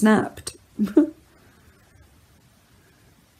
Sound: laughs

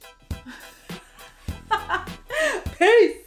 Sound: laughing

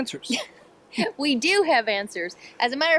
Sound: chuckles

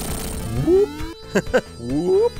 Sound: chuckles

